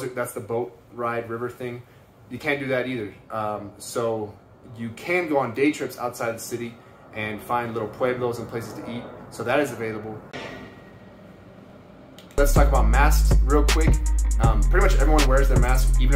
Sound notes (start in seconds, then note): 10.3 loud banging; 12.3 chill instrumental music